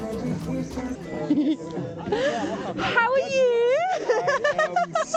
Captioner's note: laughter